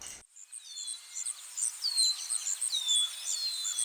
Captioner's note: birds chirping; boots stomping